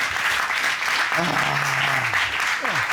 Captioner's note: judge sighs